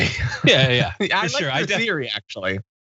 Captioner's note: laugh